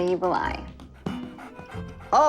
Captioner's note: dog panting